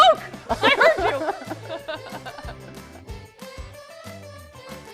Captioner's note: laughing; upbeat music